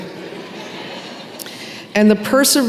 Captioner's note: laughter